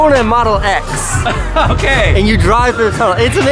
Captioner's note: laughs